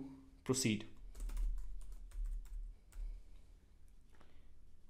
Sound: typing

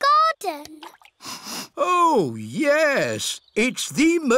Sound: sniffs

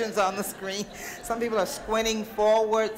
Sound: audience laughter

